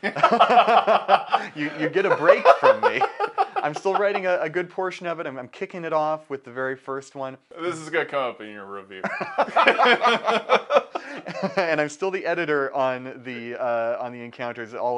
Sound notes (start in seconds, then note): 0.0 both laughing; 9.0 both laughing